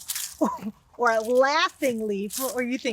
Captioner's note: laughs